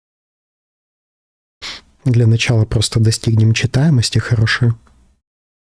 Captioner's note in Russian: фыркает